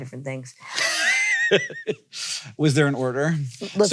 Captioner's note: laughs